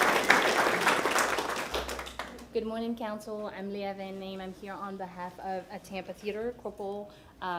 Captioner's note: applause